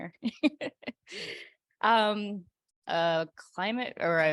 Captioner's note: chuckles